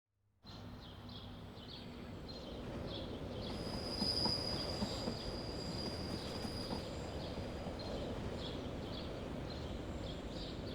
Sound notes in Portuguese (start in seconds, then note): 3.0 trem se movimenta